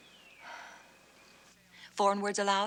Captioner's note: sighs